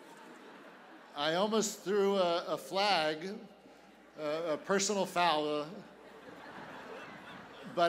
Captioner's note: laughter